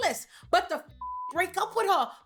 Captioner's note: beep